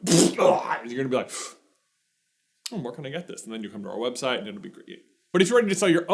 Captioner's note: sip